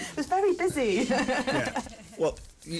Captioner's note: laughs; laughs